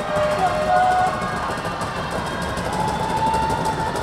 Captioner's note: crowd stomping